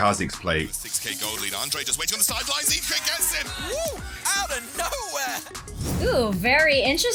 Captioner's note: cheering